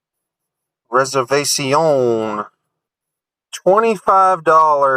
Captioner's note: impressive French accent